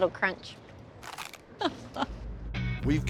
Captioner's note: crunch